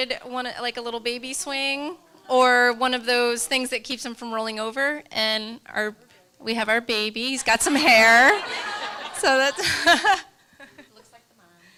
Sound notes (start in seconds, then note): 8.0 laughter